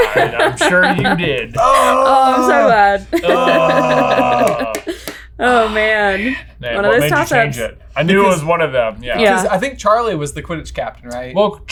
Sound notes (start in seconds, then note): 3.1 both groaning